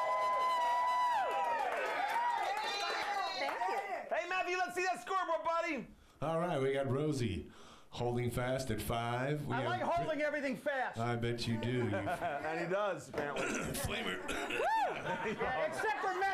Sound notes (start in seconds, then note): 3.7 audience cheering